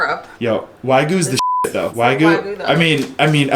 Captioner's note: beep